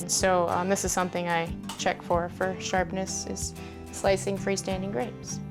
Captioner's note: none